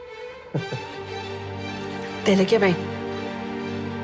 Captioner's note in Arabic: يضحك بيير